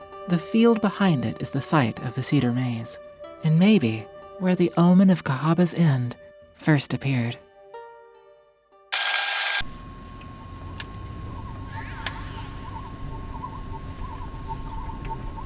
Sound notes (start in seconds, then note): 8.9 film screeching; 9.7 soft ominous music